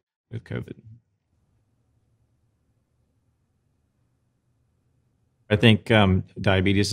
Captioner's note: silence